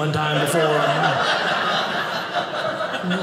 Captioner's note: audience laughing